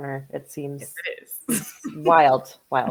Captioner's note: chuckles